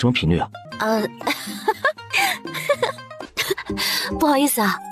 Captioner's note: laughs awkwardly